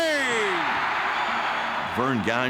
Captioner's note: crowd cheering